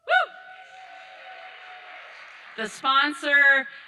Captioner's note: audience applauding